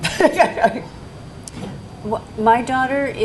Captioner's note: laughing